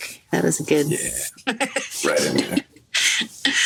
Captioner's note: chuckles